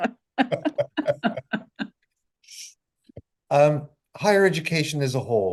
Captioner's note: both laughing